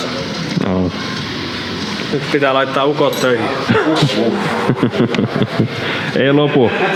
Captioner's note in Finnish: naurua